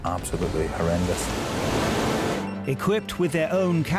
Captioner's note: water splashing